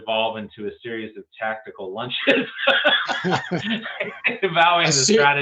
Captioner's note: laughs